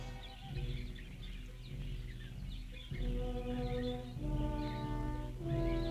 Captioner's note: birds chirping; tense orchestral music